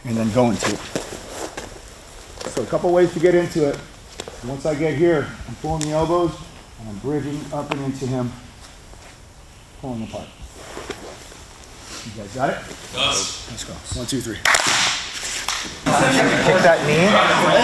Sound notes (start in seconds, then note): 14.4 class claps